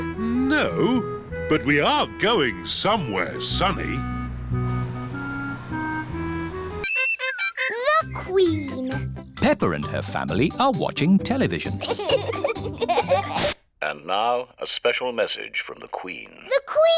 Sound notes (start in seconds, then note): 11.8 both giggling